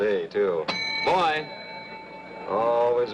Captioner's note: rings call bell